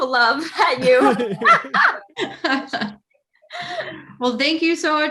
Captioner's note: group laughing